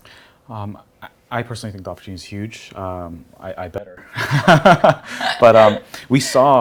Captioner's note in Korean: 웃음